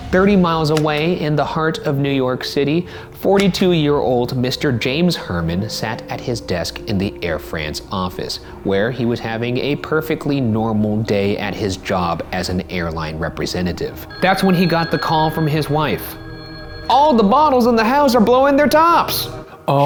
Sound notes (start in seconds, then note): 14.1 phone ringing